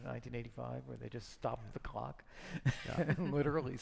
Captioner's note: laughing